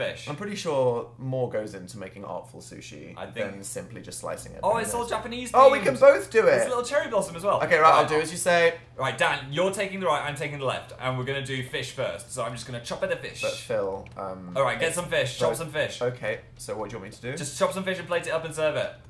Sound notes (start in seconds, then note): none